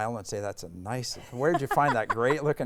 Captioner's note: laughing